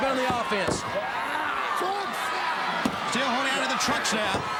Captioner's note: crowd cheering